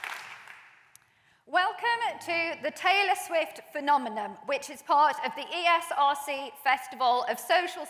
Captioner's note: applause